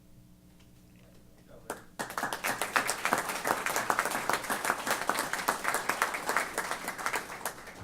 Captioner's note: applause